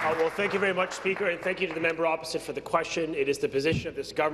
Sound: applause

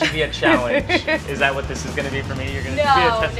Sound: laughs

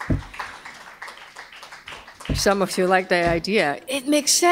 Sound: applause

